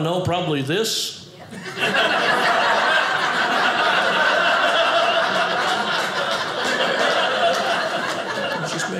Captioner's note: audience laughing